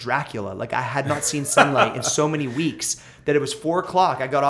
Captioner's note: laughter